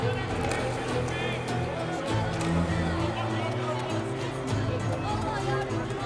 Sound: Kalabalık bağrışma sesleri

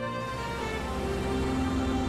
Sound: car moving

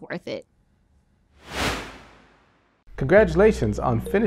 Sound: whoosh

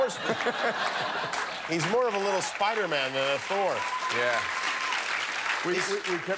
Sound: laughter; cheers and applause

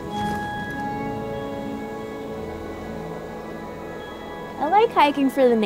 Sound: wind rustling

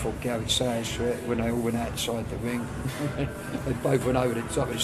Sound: laughs

